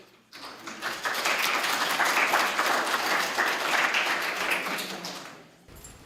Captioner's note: applause